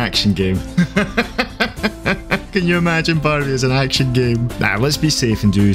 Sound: laughing

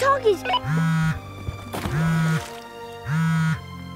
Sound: phone vibrates

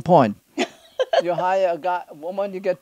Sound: laughs

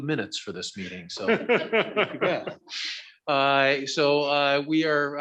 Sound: all laughing

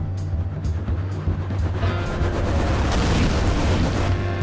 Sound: whirring

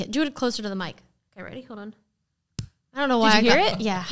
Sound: slapping sound; laughing

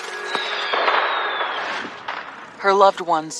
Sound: fireworks booming

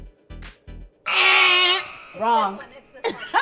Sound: buzzer sound

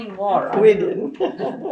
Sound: laughs

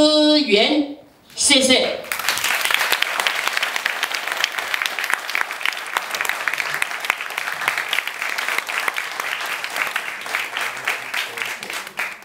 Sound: audience applause

